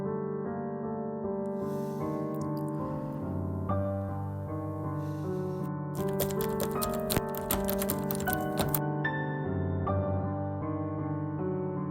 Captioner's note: loud pounding at the door